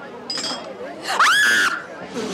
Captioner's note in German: Schrei